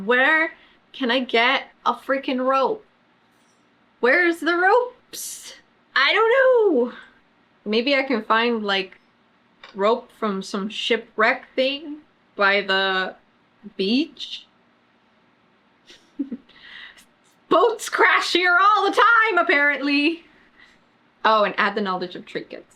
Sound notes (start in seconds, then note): 16.0 laughs